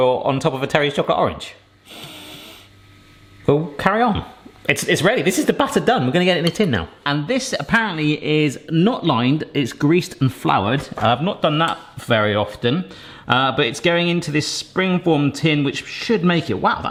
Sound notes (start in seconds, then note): 1.9 nose sniffing